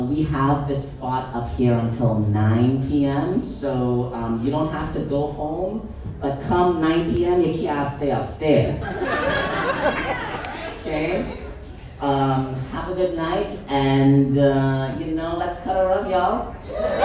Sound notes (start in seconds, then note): 8.9 audience chuckles